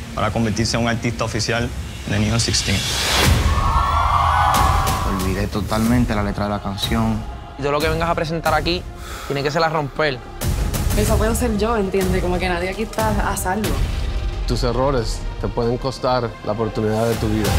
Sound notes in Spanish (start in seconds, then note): 3.4 vítores